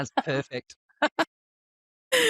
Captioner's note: laughs